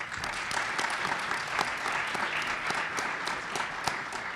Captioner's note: group applauds